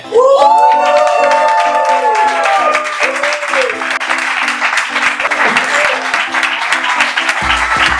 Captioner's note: applause